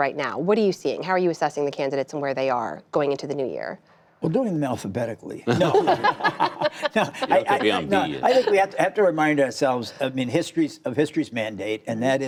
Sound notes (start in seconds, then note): 5.4 laughter